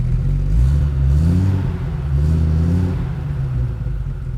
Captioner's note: engine revving